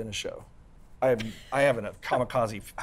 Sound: laughs

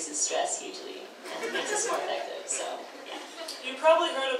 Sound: audience laughs

